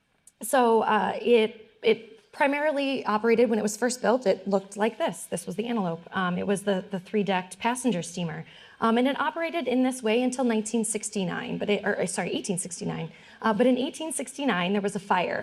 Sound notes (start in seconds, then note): none